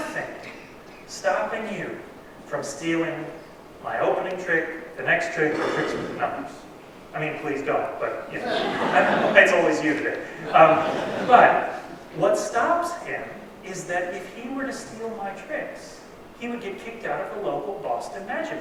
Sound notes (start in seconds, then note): 10.2 laughter